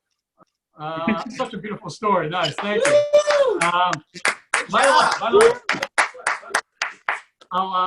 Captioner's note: more people clap